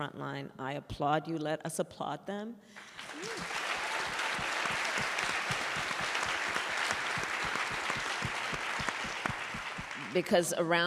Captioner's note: applause